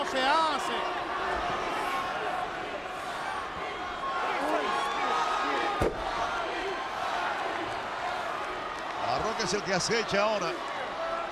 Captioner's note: applause